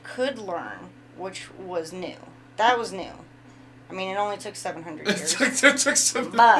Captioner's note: laughing